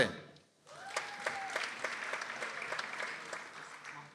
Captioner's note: people applauding